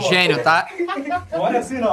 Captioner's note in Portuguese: risadas